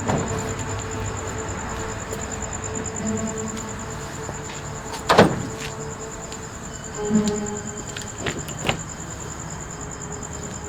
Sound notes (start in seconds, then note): 5.1 luggage thuds